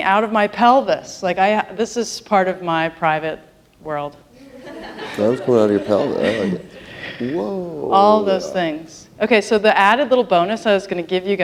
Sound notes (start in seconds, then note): 4.4 laughter